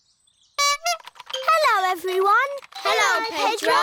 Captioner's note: horn honks